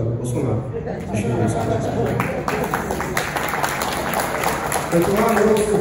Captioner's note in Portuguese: risos, seguidos de aplausos